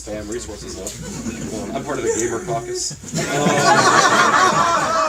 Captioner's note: laughter